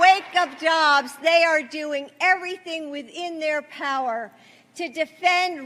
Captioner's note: applause